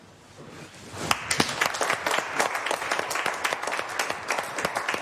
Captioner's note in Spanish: Aplausos